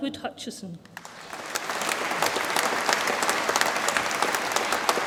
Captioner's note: audience applauds